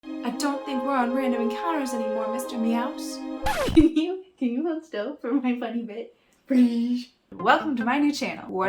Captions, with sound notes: I don't think we're on random encounters anymore, Mr. Meowse... [record scratch] Can you... Can you hold still for my funny bit? PLEASE! Welcome to my new channel!